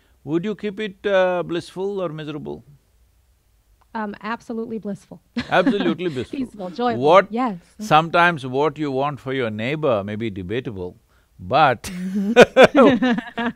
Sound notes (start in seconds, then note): 5.4 laughs; 11.8 both laugh